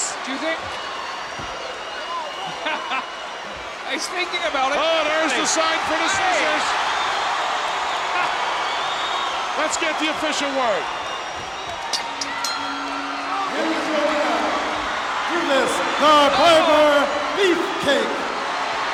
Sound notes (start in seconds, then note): 1.6 chuckles; 6.7 audience cheers; 11.7 bell rings; 18.6 audience cheers